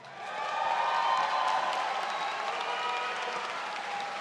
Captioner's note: audience cheers